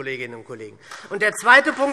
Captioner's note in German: Beifall SPD